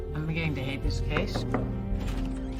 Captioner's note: knocking